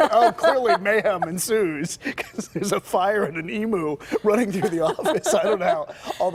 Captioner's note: laughter